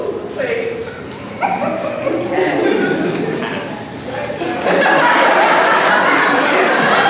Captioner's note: snickers and crowds laughs